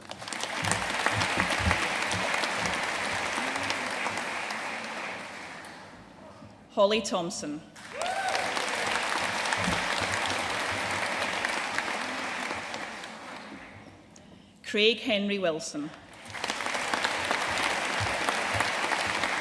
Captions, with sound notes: (AUDIENCE APPLAUDING) Holly Thomson. (AUDIENCE CHEERING AND APPLAUDING) Craig Henry Wilson. (AUDIENCE APPLAUDING)